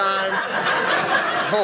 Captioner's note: audience laughing